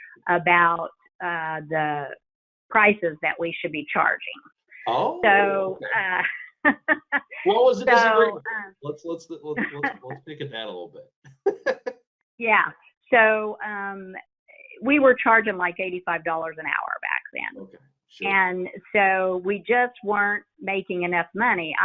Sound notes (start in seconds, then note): 5.0 laughs; 11.3 laughs